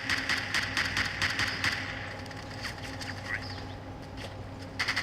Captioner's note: video game gunfire sounding